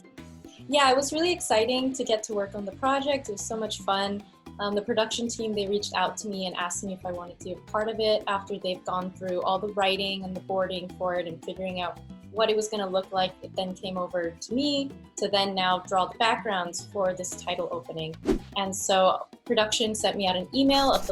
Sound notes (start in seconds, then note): 18.2 air whooshing